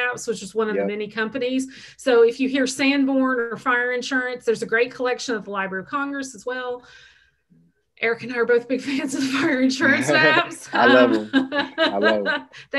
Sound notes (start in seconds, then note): 9.8 laughs